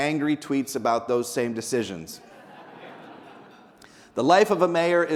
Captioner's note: people laughing